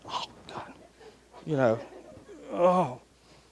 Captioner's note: audience laughing